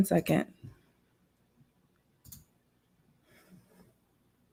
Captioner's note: computer mouse clicking